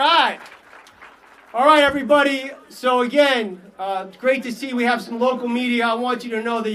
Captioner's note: applause